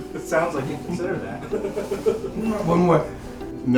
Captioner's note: laughs